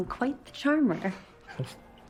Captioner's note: chuckles